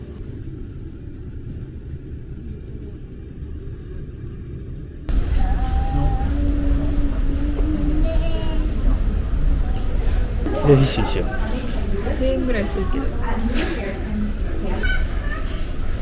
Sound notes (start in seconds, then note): 13.9 laughs